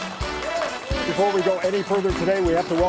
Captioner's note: audience applauds; audience cheers